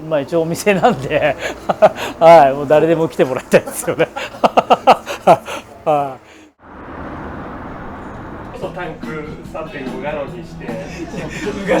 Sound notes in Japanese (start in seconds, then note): 6.6 エンジン音